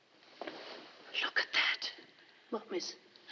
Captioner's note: whispers